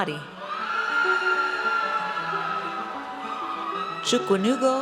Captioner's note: audience cheers